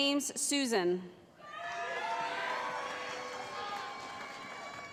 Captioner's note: cheering